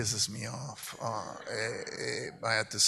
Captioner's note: audience laughs